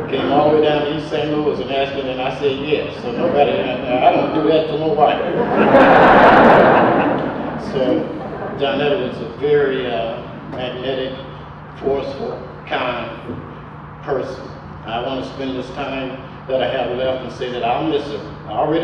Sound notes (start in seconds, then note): 0.0 audience laughter; 5.5 audience laughter